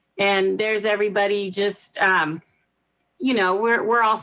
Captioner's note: none